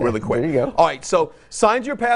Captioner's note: laughs